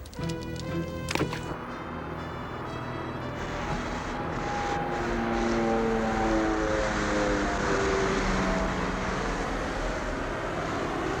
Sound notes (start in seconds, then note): 5.6 plane buzzing